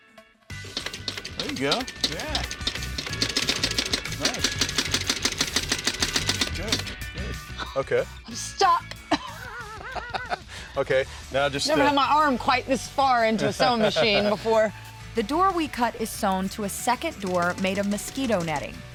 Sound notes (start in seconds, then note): 0.7 clicking sound; 9.0 laughing